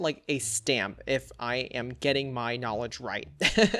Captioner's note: laughs